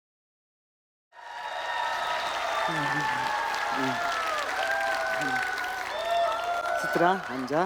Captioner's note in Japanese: 拍手と歓声